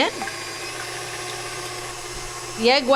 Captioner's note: mixer whirs